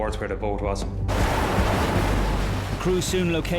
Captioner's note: waves crashing